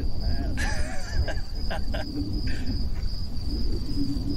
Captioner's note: man laughing